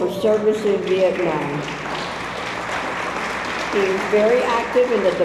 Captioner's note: audience applauds